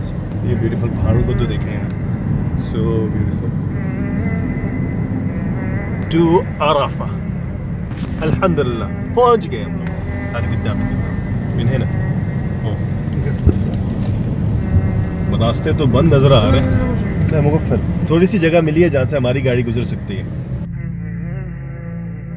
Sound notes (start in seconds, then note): 0.0 speaking Arabic; 9.6 speaking Arabic; 16.9 speaking Arabic